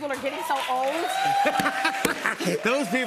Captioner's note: cheers and applause; laughs